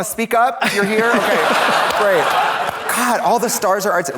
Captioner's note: audience laughs